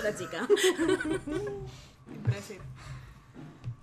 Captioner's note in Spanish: risas